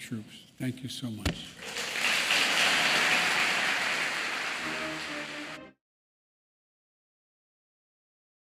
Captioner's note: applause